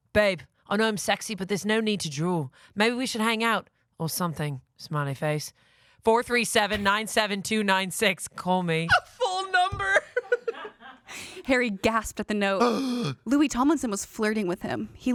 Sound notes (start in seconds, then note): 10.0 laughs; 12.6 gasps